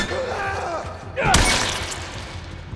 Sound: Joel grunts; runner yells; blood splatters

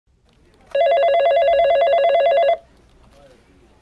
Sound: phone rings

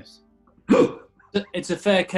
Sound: laughing

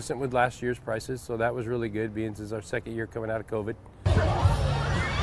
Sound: screaming

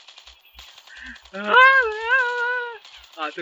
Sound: crying

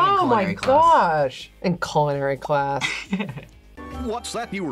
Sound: chuckles

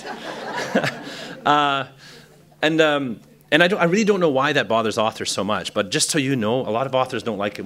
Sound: laughter

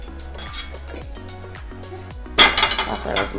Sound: pan clanks

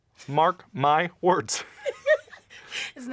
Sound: laughter

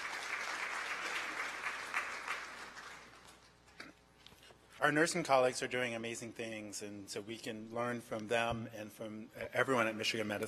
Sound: applause

